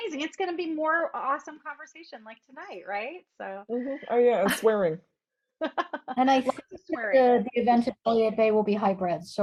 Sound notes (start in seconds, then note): 5.6 laughter